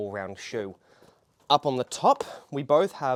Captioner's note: shoes tap